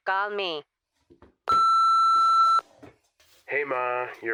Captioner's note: beeping